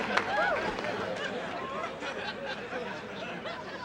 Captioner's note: audience laughs